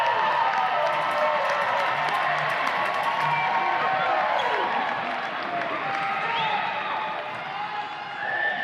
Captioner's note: audience applause and cheers